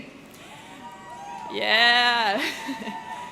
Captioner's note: audience cheering